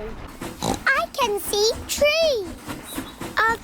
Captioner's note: oinks